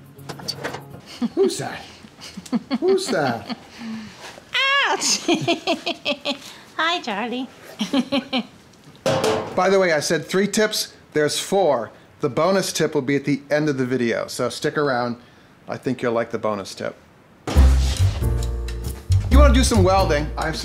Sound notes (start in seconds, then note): 2.2 laughter; 4.6 laughs; 7.7 laughs